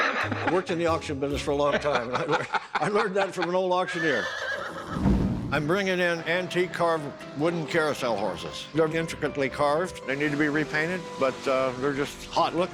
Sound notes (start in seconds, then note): 3.8 horse whinnying